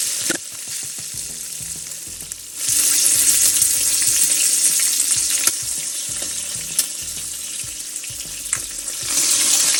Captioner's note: water splashing